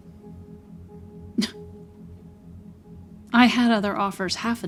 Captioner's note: Wendy scoffs